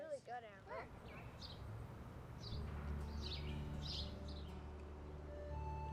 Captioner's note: birds singing